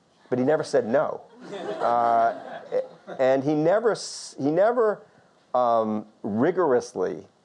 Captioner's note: audience laughter